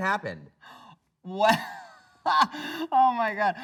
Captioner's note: laughs